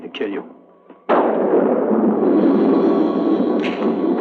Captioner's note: thunder crashing